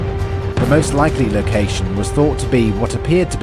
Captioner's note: explosions